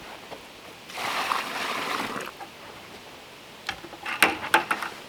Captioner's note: water splashing